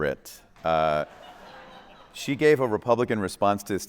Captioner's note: attendees laughing